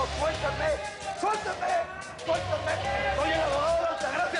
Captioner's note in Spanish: Gritos de reclusos